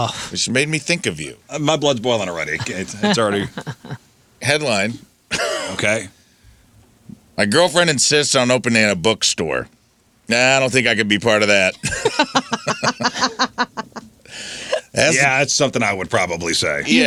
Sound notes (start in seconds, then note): 14.1 laughing